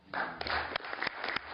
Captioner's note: applause